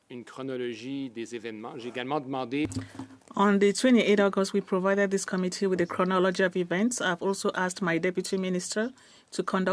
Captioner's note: speaking French